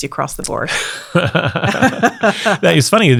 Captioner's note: laughing